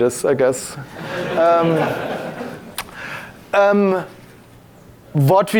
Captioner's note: audience laughing